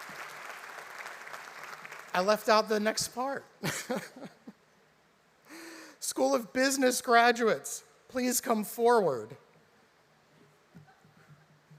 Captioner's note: applause